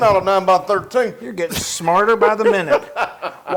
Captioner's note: laugh